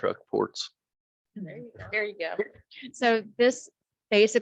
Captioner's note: chuckles